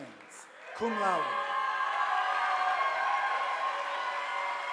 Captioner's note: audience applauding